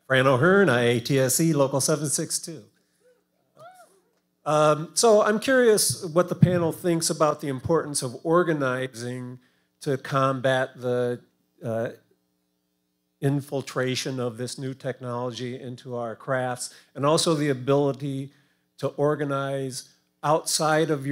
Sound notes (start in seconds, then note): 3.1 audience members cheering